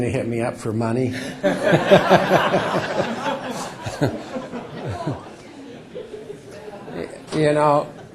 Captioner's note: laughter